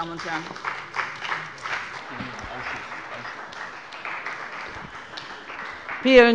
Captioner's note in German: Beifall bei dem BÜNDNIS 90/DIE GRÜNEN und der CDU